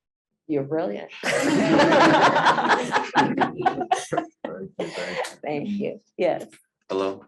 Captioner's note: laughter